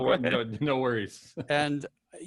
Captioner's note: laughs